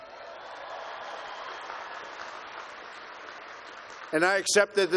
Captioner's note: applause